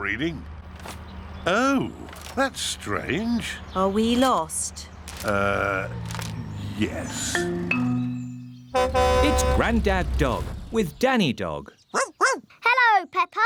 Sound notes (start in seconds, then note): 8.7 horn honks; 11.9 barking